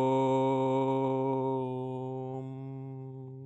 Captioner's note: chanting